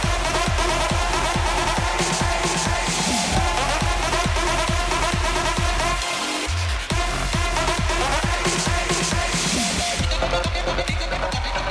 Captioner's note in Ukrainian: оплески